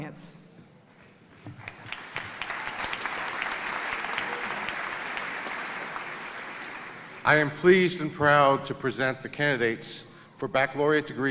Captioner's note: applause